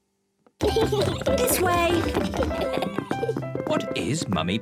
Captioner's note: kids giggling